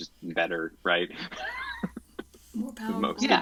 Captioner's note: chuckles